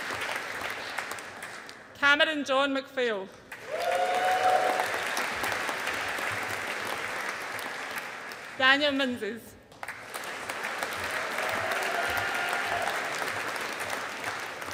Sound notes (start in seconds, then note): 3.5 audience applauding; 9.7 audience applauding